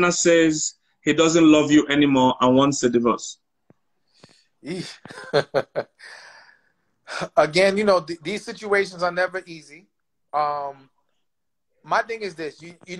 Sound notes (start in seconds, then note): 4.6 laughs